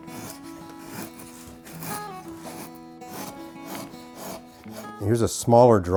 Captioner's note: acoustic guitar plays softly; soft scraping